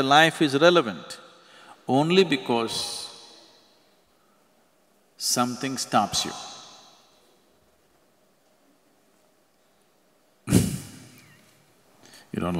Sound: laughs

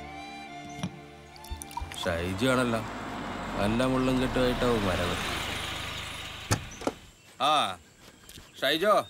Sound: car Sound

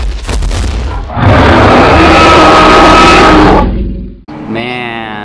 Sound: dinosaur roaring

